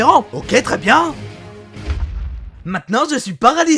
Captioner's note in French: boom